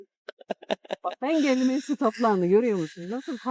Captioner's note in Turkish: kahkaha